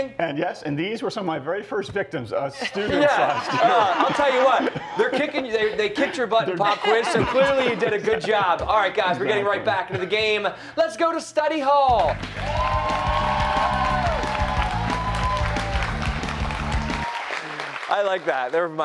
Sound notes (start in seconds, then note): 2.6 laughter; 12.0 cheers and applause